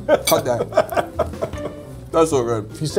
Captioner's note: laughs